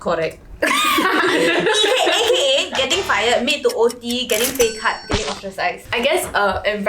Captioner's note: laughs